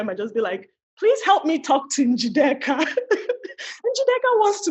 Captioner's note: laughs